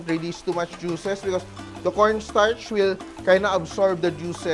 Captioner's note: sizzle